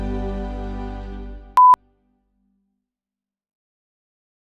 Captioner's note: beeping